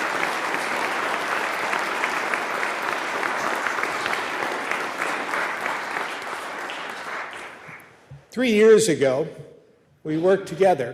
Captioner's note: applause